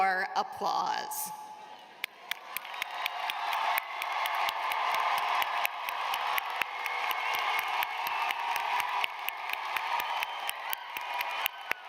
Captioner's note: cheers and applause